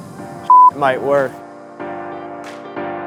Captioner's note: beep